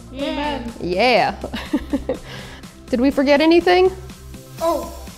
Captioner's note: laughs